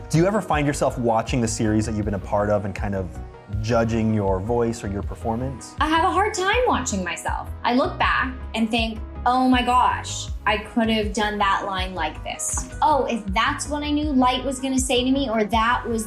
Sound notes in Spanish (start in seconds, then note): none